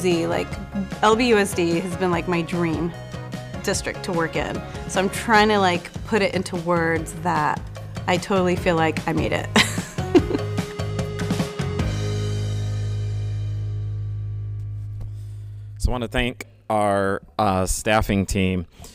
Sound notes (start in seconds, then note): 9.6 giggles